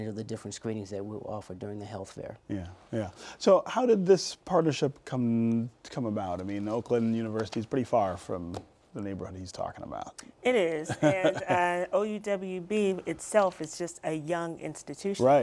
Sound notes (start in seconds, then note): 10.8 laughter